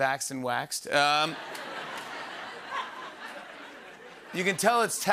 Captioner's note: laughter